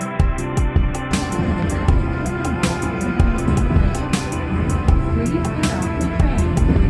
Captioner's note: haha